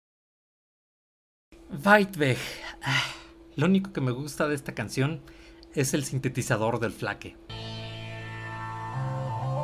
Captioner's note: sigh